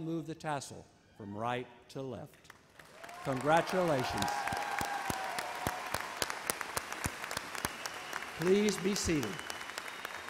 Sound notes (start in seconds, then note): 4.6 audience cheers and applauds